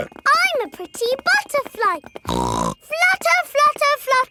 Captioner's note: snorts